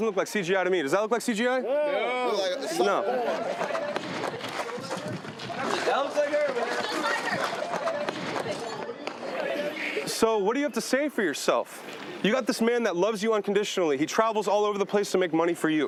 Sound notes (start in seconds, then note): 2.2 crowd